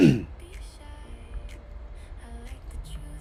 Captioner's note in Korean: 목을 가다듬음